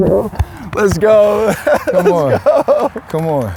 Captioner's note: laughs